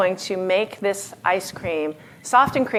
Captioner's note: none